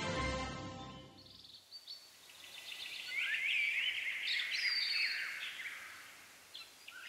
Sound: birds Chirping

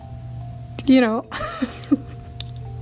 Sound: laughs

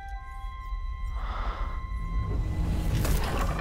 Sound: deep rumbling; soft exhale

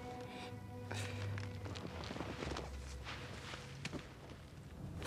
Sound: soft clattering

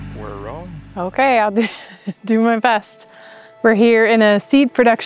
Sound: chuckles

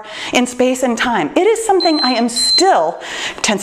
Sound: timer beeps

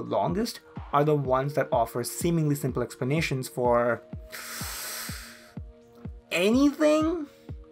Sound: suck air in through teeth

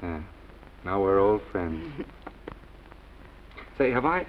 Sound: Esther chuckles

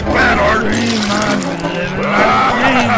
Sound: splashing

